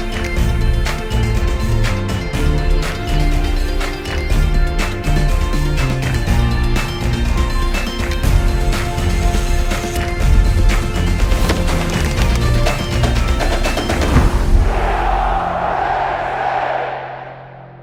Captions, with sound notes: - [Crowd] We are Penn State!